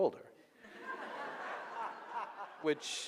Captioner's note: audience laughing